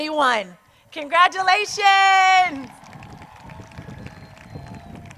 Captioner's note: crowd cheers